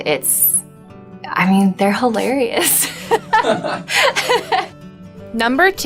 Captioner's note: laughs on screen and off screen